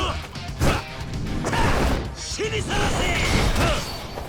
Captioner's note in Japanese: うめき声